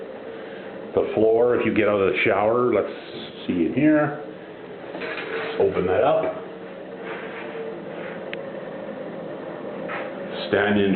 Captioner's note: humming noise